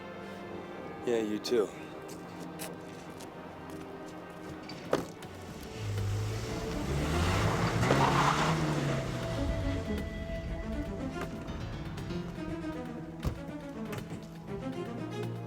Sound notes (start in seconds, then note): 5.8 engine rumbling; 8.0 tires screech; 10.2 tense music